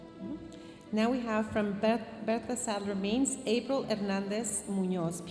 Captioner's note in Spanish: hablando en inglés